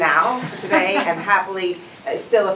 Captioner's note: laughter